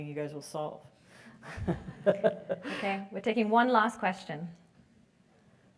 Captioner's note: laugh